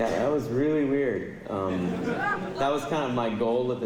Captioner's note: laughter